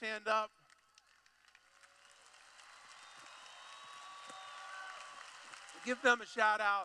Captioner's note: cheering/Clapping